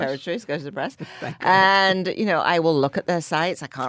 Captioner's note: laughs